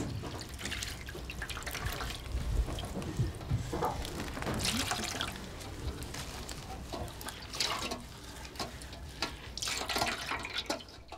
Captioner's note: foreign Language; water Splashing